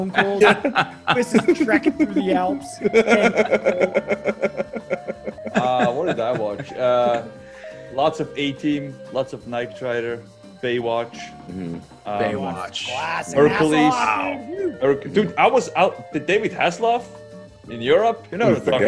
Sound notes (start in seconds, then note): 3.3 laugh